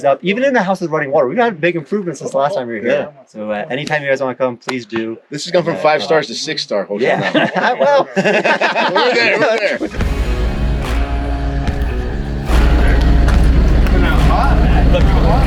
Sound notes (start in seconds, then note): 7.0 laughing; 9.0 upbeat music